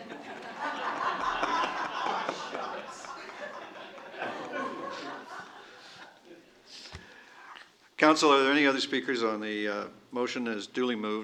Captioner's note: laughter